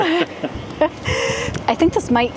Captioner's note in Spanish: risas